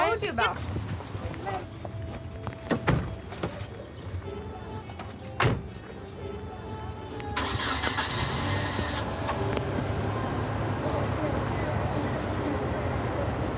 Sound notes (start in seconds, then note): 2.7 car door closes; 5.4 passenger's door closes; 7.2 car starts